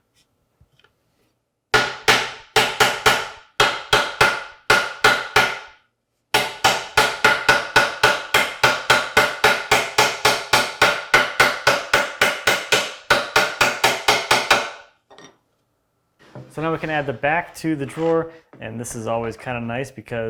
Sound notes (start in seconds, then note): 2.0 chisel handle on wood sharply tapping; 11.4 chisel handle on wood continues tapping; 15.0 chisel on desk clinking